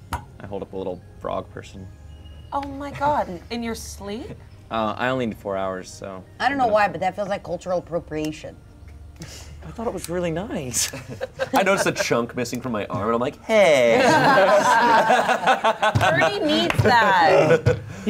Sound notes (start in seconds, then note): 13.9 everyone laughs